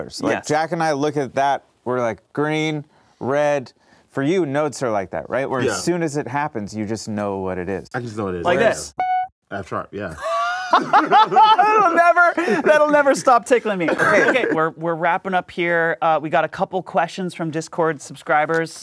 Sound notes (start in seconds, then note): 8.6 plays note; 10.2 laughs